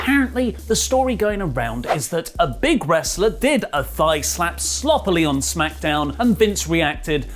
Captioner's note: a thigh slap